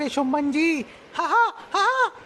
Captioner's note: laughing